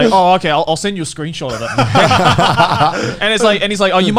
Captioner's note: laughing loudly